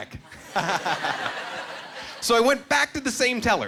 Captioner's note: laughing